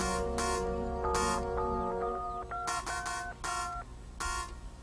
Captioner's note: phone dialing